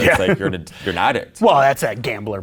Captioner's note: laughing